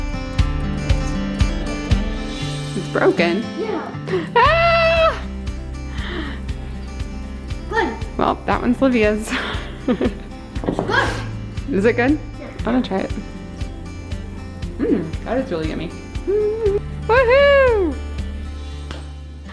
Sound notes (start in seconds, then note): 0.1 upbeat music; 4.8 upbeat music; 9.3 laughing; 13.9 upbeat music; 16.4 upbeat music